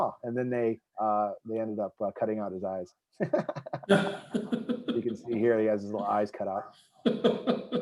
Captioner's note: laughing